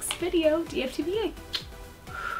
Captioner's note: blows kiss